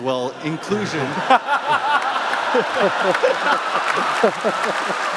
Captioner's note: laughter